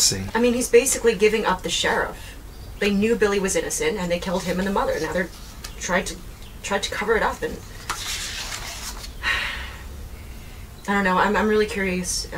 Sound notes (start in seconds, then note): 7.7 paper rustling; 9.2 sighs